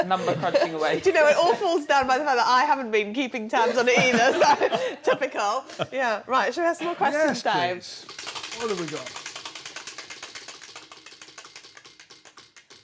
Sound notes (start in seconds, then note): 8.1 wheel clacking